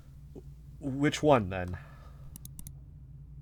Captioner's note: clicks